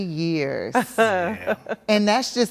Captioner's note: laughs